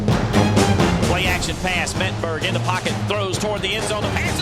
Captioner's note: voiceover